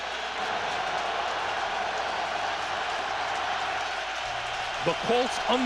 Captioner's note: cheers and applause